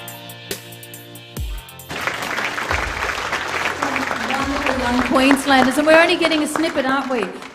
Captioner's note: applause